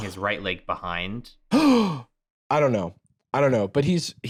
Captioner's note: gasps